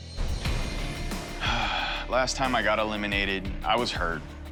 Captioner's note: sighs